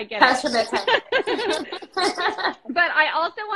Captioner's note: both laughing